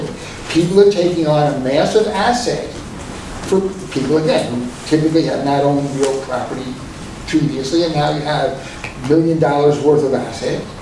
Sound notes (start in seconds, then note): none